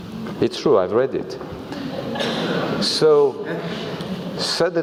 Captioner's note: laugh